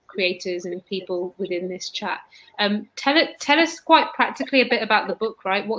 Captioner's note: erm